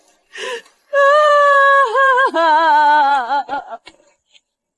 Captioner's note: crying/Laughing